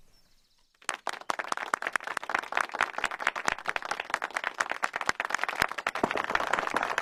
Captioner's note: applause